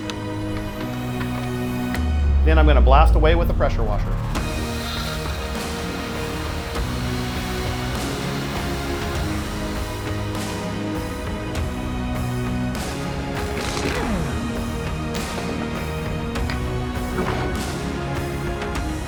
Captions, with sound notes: Then, I'm going to blast away with a pressure washer. (dramatic music) (power washer spewing) (power tool whirring)